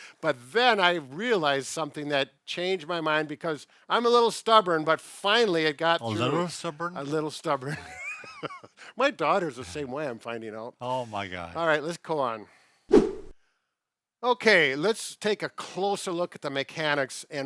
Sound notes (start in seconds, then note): 8.5 laughs